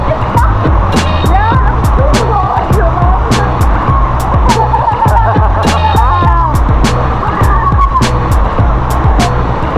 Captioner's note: laugh; laugh